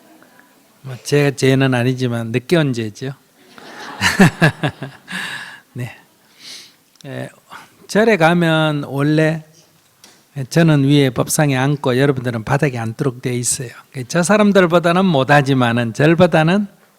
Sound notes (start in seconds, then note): 3.4 audience Laughter